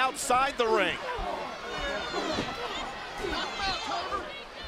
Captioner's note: wrestlers chattering; crowd yelling